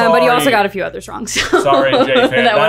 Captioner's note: laughing